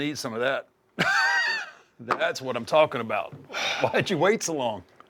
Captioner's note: laugh